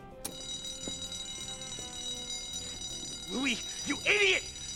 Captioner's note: alarm sounding